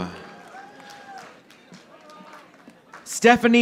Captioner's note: audience applauding